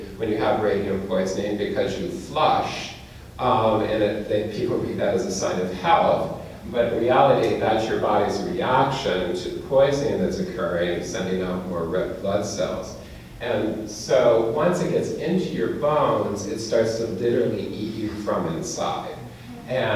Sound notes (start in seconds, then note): none